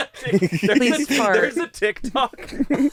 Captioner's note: laughing